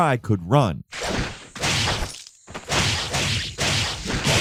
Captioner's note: hits whacking